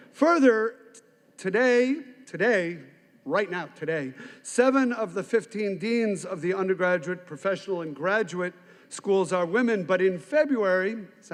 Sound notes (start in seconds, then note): none